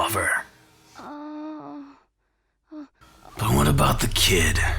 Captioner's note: bot moans